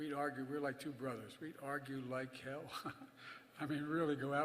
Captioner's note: laughs